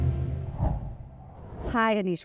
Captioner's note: inspiring music continues; screen wipe whooshes